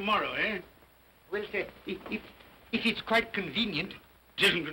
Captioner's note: stammering